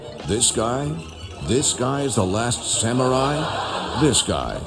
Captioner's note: audience laughs